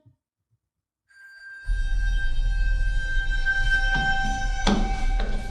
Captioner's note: bell rings